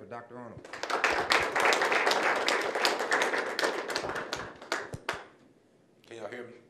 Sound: applause

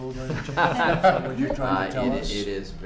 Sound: laughter

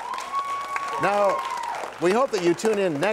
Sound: cheers and applause

